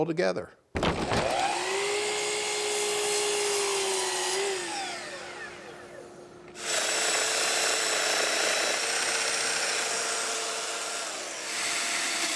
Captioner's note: machine vibrating